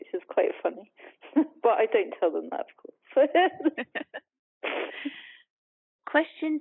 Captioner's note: laughs